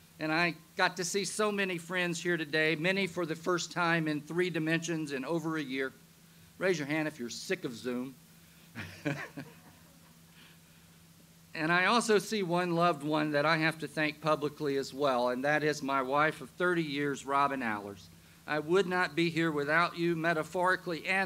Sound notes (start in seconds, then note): 8.7 laughs